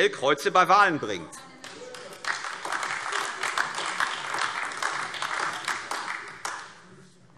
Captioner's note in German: Beifall AfD